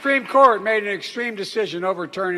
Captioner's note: applause